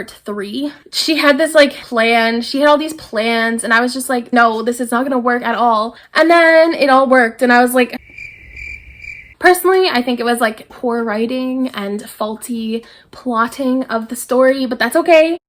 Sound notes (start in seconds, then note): 8.0 crickets